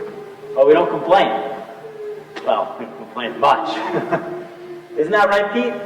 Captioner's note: women humming lullaby; laughs; women humming lullaby